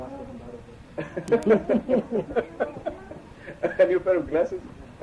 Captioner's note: laughter